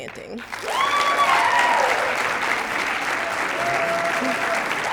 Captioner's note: cheers, applause